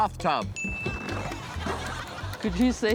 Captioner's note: ding!